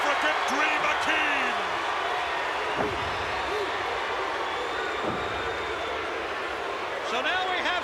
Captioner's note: applause